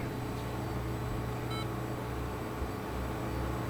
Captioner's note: computer beeps